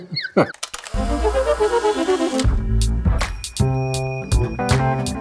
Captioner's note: Polaroid snapping; upbeat funky music